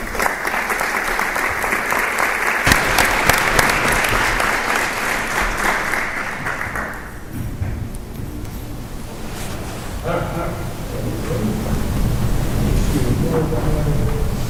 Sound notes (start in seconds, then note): 1.5 applause